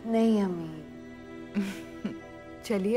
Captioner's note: Chuckles